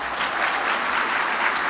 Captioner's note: applause